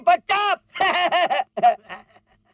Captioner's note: laughs